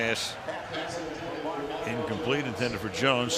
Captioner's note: pa announcement